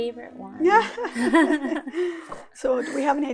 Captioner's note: both laugh